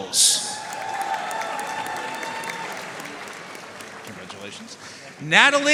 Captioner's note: audience cheering and applauding